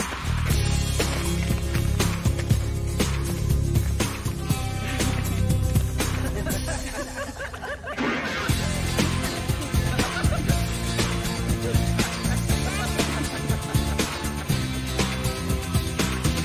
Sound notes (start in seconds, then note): 0.2 cheerful rock music; 6.1 all laugh